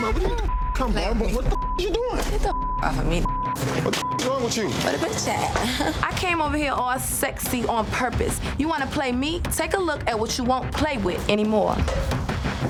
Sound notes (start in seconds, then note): 0.0 beep; 0.9 overlapping chattering; 2.9 beep